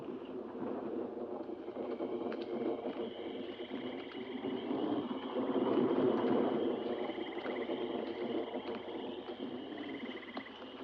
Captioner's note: thunder rumbling